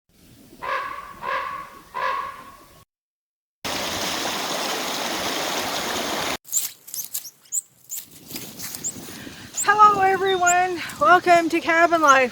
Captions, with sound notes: [Crows] [Water flowing] [Forest sounds, birds, air breeze] Hello everyone, welcome to Cabin Life